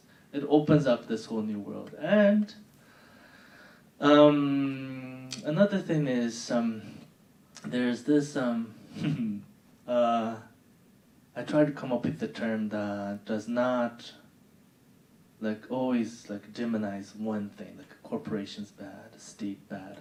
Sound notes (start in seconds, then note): 9.6 laughing